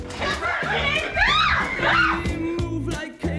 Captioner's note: all laugh